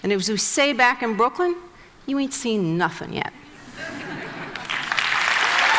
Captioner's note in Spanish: Risas; Aplausos